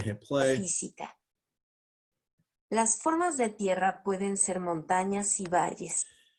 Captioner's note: foreign Language